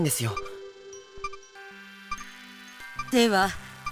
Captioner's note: silence